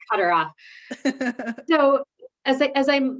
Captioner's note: laughs